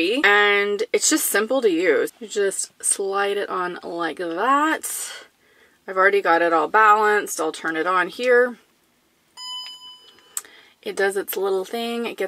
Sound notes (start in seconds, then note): 9.4 beep